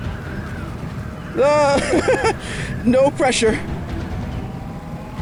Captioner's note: nervous laughter